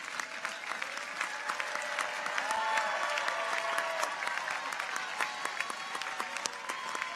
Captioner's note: audience applauds; people cheer